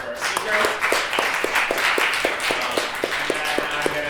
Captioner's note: applause